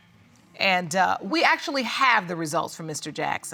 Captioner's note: none